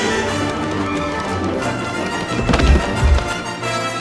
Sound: tripping sounds

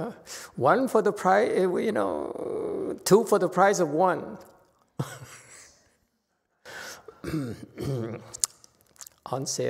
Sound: laughs

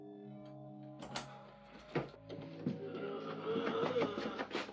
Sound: door latch clicks

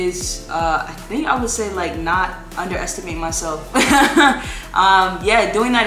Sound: laughs

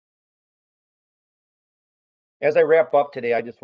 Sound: A pause

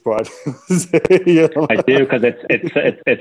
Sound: laughter

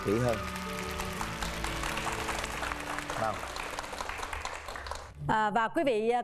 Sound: clapping hands

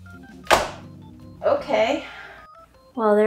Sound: mamey cracks

